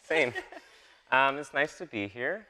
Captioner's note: laughing